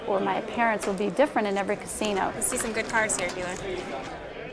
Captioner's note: none